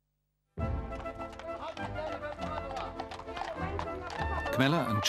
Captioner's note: lively music; people chatting